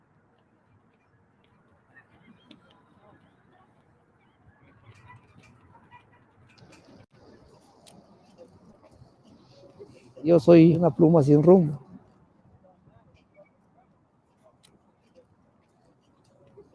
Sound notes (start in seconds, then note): 10.8 speaking foreign language